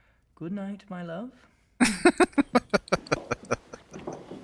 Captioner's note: laughing